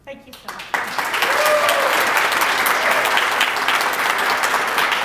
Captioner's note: applause